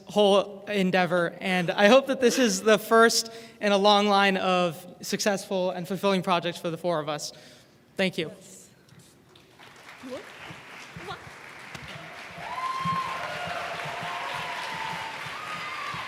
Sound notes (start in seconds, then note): 2.1 applause